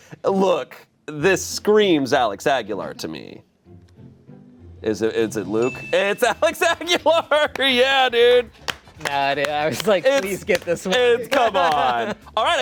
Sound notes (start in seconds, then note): 5.6 chime dings